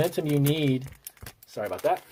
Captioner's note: paper rustling